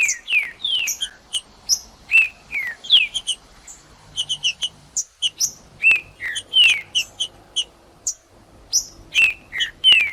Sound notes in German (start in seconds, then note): 1.1 trinca ferro cantando; 3.1 trinca ferro cantando; 5.1 trinca ferro cantando; 7.1 trinca ferro cantando